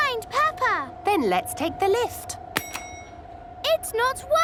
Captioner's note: lift pings